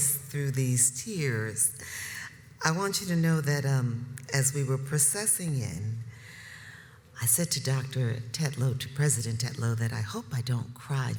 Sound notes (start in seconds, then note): none